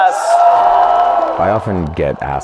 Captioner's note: audience cheers